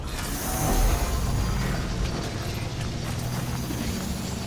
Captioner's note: engine humming